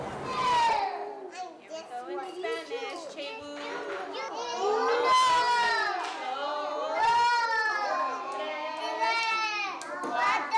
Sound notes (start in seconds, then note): 2.9 teacher and children count in spanish